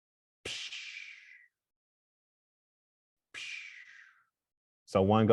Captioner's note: makes elongated vocal sounds